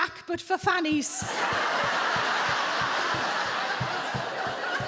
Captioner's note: audience laughing